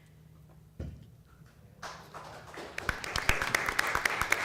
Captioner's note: applause